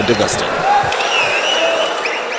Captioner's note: wild applause and cheering for 22 seconds